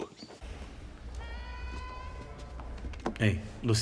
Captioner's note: woman yelling